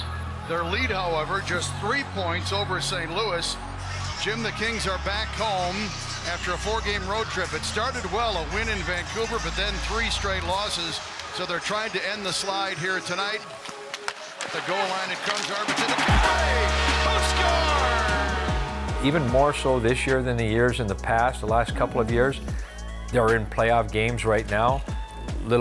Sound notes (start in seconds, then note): 16.7 crowd cheering